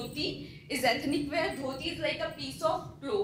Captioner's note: speaking foreign language